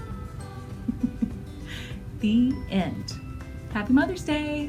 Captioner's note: laugh